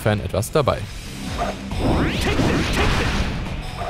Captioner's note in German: Gamegeräusche